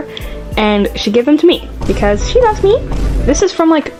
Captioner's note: vine booms; high pitched voice